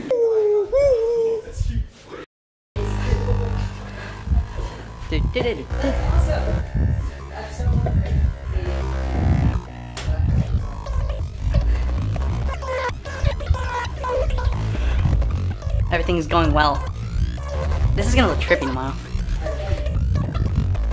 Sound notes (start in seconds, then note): 2.7 distorted noises; 5.2 singing